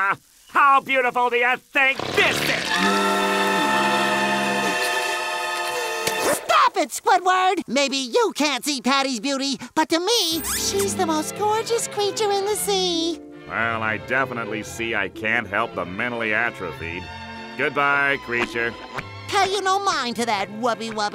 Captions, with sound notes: How beautiful do you think this is? [shuddering] Stop it, Squidward! Maybe you can't see Patty's beauty, but to me, she's the most gorgeous creature in the sea. Well, I definitely see I can't help the mentally atrophied. Goodbye, creature. Pay you no mind to that, Wubbie-Wubbie.